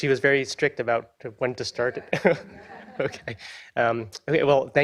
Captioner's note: chuckles